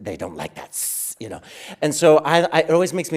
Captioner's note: hissing sound